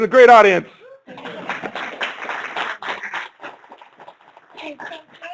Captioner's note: applause